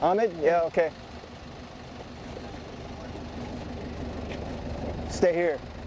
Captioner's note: minivan idling